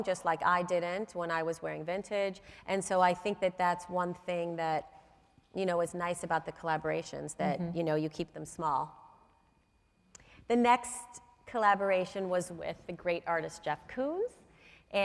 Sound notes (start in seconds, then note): none